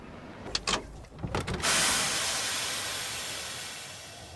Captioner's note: water sloshing